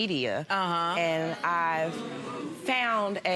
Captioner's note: audience murmurs